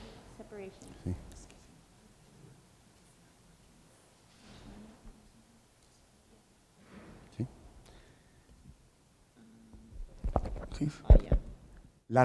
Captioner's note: speaking in Spanish